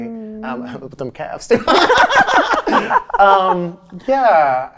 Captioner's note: laughing